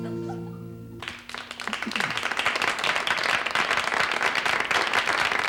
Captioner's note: audience applauds